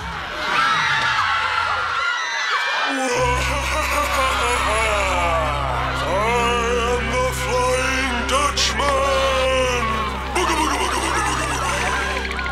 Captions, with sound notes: [screaming] [moaning] I am The Flying Dutchman. Booga booga booga!